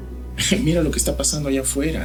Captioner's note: chuckles